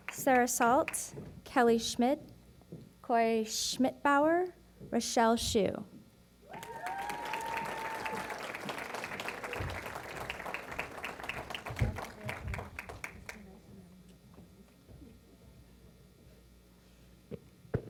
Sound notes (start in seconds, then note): 6.5 applause